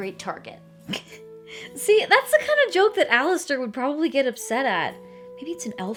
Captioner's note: laughs